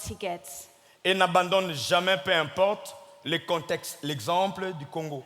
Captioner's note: speaking in French